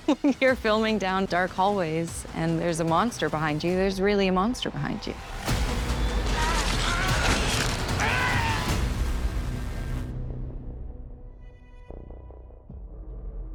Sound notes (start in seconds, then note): 5.5 dramatic music; 6.0 screaming